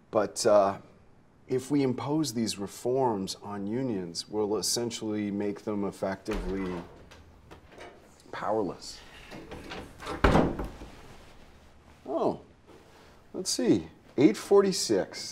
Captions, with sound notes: but, uh, if we impose these reforms on unions, we'll essentially make them effectively powerless. [door thudding] Oh, let's see, 8:46, right on time.